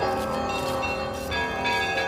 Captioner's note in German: Kirchenglocken